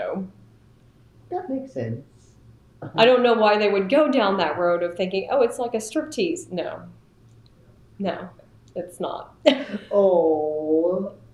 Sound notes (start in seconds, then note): 9.4 laughs